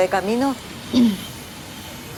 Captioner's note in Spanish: COODINADORA carraspeo